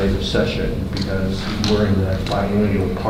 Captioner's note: rustling drowns out speaker